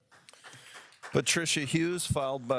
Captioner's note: audience applauds